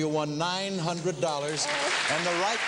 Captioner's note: audience clapping